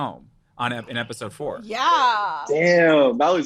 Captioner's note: group chuckles